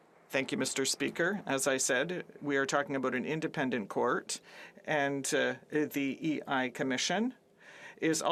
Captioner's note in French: voix de l'interprète